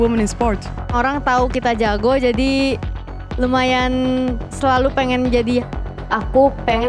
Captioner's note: in Indonesian